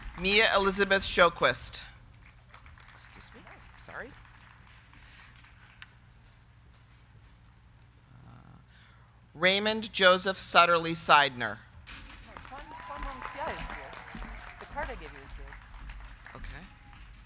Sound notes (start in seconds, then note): 0.0 crowd cheering; 0.0 crowd clapping; 2.0 crowd clapping; 12.2 crowd clapping; 12.3 crowd cheering